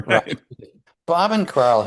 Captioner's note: laughs